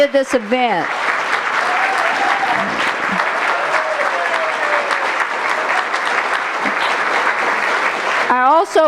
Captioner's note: applause